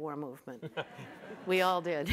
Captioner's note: audience chuckles